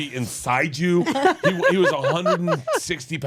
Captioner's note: laughs